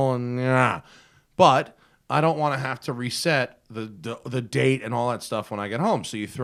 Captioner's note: grunts